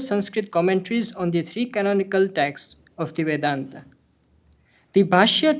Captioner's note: hindi